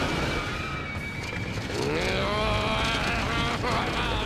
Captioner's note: growling